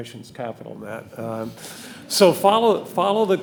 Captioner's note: audience laughing